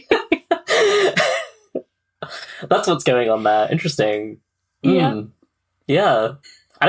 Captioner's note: laughing